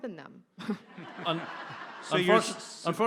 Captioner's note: audience laughs